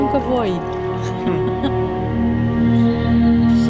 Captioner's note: laughs